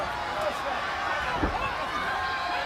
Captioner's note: crowd chatter